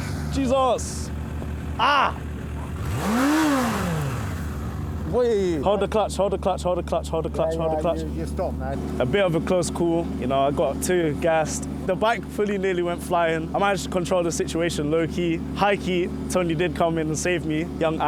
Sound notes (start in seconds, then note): 1.7 man yells; 3.5 engine revs